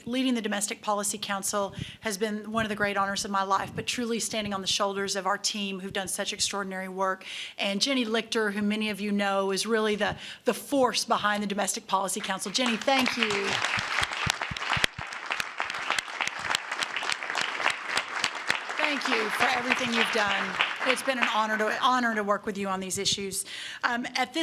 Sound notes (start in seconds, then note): 14.0 applause